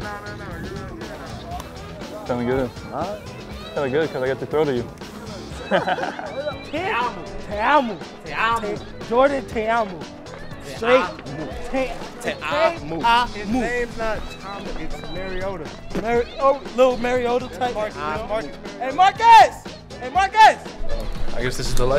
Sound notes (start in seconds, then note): 5.4 laughter